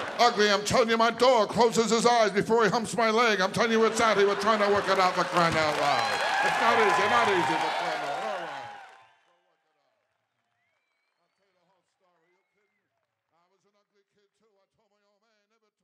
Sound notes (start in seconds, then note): 6.0 audience cheering